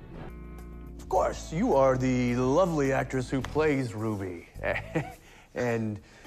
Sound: nervous laughter

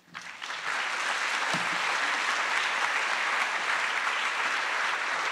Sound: attendees applauding

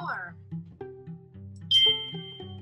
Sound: computer Voice

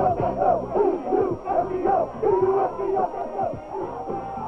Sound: players chanting

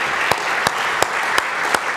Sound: applause

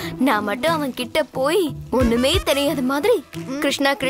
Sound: none

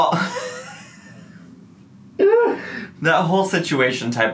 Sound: laughing

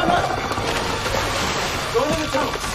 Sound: water splashing

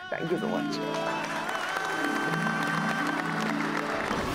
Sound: applauding

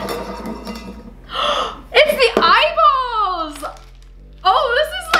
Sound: gasp

